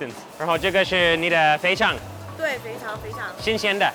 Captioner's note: speaks in a foreign language; woman speaks in a foreign language; speaks in a foreign language